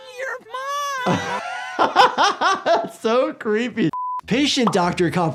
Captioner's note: laughs